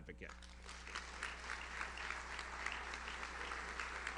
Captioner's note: audience applauds